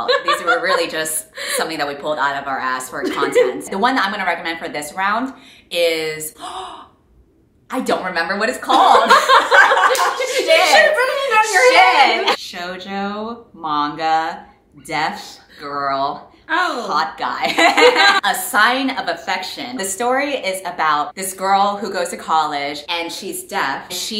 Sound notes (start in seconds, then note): 7.1 gasps; 8.9 laughing